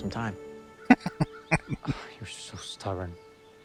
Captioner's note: chuckling